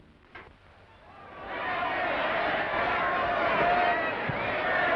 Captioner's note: crowd cheering